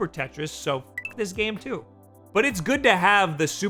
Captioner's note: beep